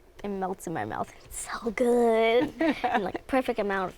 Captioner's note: laughing